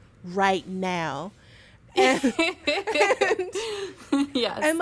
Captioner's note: laughter